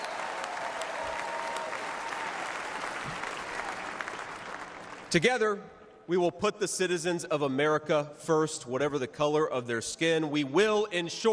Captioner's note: cheers and applause